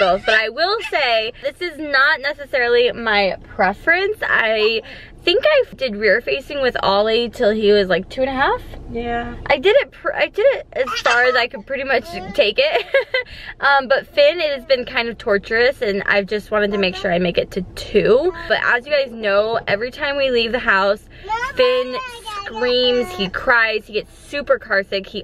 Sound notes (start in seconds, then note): 13.3 laughs